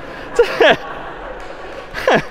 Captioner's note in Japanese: 笑い; 拍手